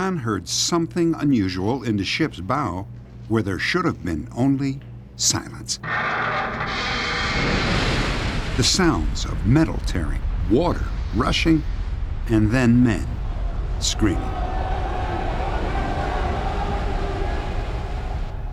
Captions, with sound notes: heard something unusual in the ship's bow where there should have been only silence. [loud creaking] The sounds of metal tearing, water rushing, and then men screaming. [faint screaming]